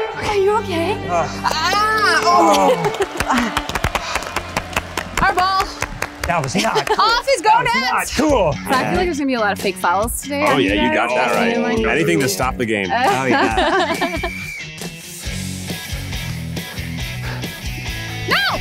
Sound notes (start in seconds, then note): 1.5 cries of pain; 2.0 clapping; 13.0 laughter; 13.8 whistle blows; 15.3 upbeat music